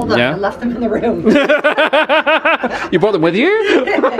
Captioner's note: pair laughing